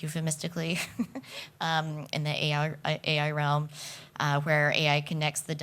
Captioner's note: chuckles